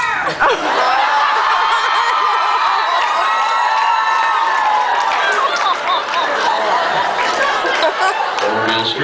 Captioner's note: a few people in unison; laughs, screams